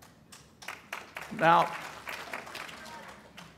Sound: applause

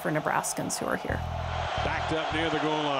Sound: crowd noise

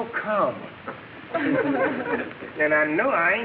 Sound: audience laughing

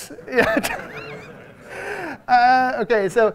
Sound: audience members laugh

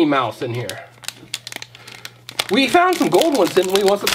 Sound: bag crinkles

